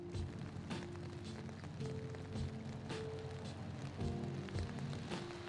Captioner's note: rain pattering